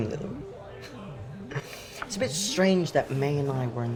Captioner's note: chuckles